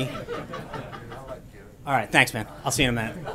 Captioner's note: laughter